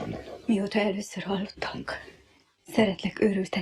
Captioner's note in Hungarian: Liszt hümmög